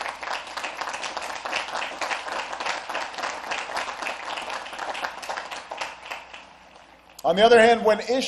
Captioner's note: applause